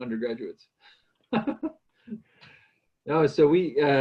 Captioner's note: laughs